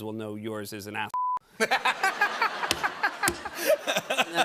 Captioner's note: laughter